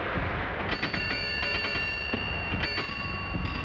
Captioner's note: ringing